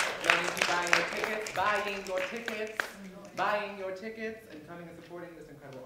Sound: applause

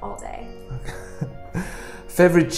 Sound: laughs

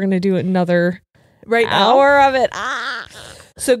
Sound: screams

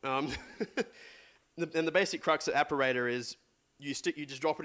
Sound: laughs

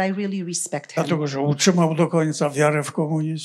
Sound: foreign language

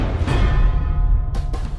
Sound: gentle music; drums thump; metal clangs

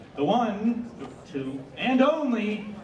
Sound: whisper

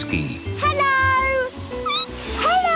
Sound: squeaking

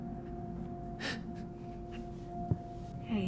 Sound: gasping

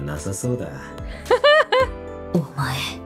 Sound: chuckles

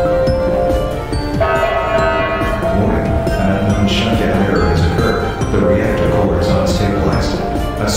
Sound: announcement Chime

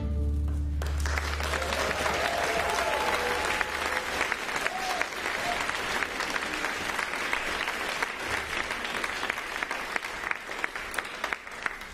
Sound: applause

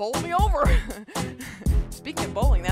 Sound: chuckling

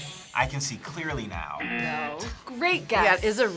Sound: buzzer rings; buzzer

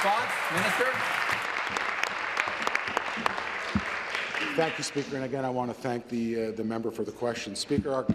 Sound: applause

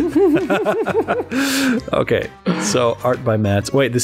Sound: laughter

